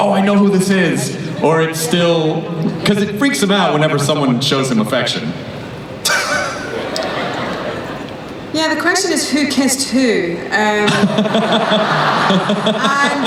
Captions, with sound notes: oh I know who this is, or it's still, 'cause it freaks him out whenever someone shows him affection. (Peter laughs) - Yeah, the question is who kissed who. (laughing)